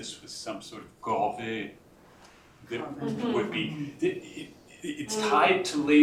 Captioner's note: french